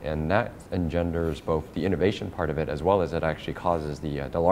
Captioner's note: none